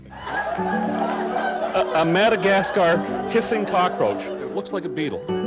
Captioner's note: laughter